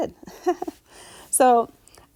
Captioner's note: instructor chuckling